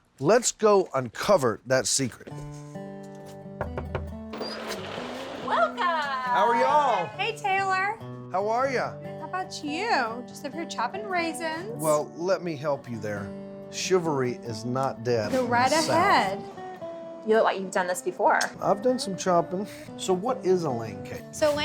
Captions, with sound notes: LET'S GO UNCOVER THAT SECRET. [KNOCKING ON DOOR] [DOOR OPENS] WELCOME! -HOW ARE YA'LL? -HEY, TAYLOR! -HOW ARE YA? -GOOD, HOW 'BOUT YOU? I'M JUST OVER HERE CHOPPING RAISINS. WELL, LET ME HELP YOU THERE. CHIVALRY IS NOT DEAD. GO RIGHT AHEAD. YOU LOOK LIKE YOU'VE DONE THIS BEFORE. I'VE DONE SOME CHOPPING. SO, WHAT IS A LANE CAKE?